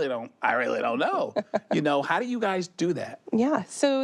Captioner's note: chuckles